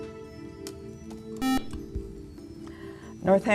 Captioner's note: beeping